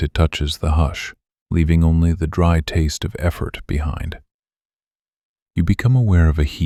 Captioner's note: low voice